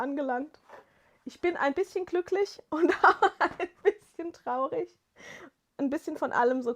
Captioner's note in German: gelächter